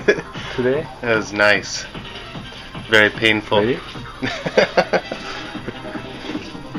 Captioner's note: chuckles